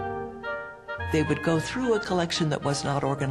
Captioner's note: voiceover